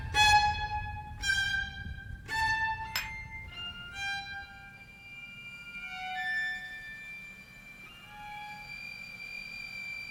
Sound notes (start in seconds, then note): 2.9 mugs clinking